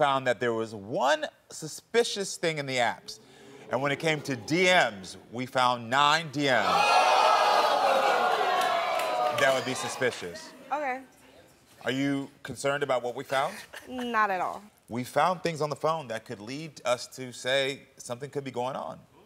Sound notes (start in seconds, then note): 3.0 audience oohs